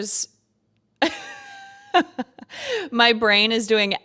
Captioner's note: laughs